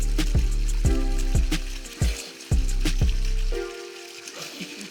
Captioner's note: water slowing